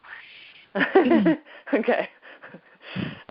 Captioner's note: laughs